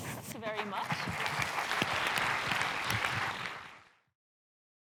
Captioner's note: applause